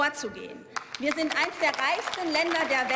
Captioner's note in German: Beifall